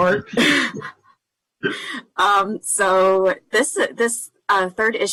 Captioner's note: laughter